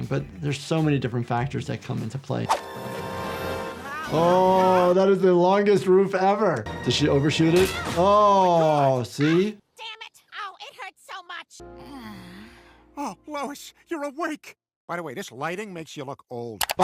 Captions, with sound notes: But there's so many different factors that come into play. (dramatic music) Oh, that is the longest roof ever. Does she overshoot it? (Lois thudding) Oh see. - Goddamn it. Oh, it hurts so much. (Lois groaning) - Oh, Lois, you're awake. By the way, this lighting makes you look old